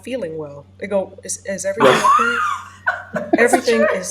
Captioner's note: laughs